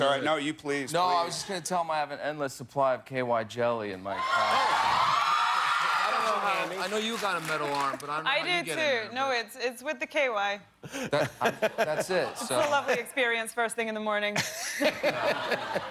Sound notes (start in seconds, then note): 6.2 cheers and applause